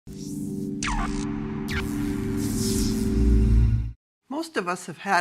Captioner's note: electronic buzzing